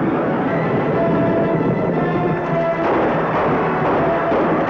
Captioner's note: gunshots